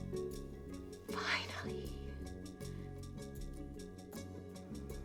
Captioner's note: whispers